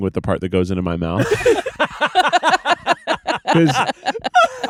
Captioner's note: everyone laughing